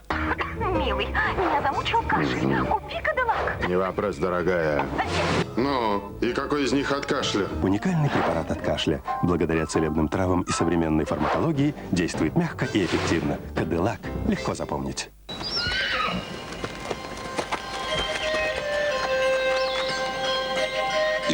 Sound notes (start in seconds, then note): 15.3 horse neighing; 15.3 hoofbeat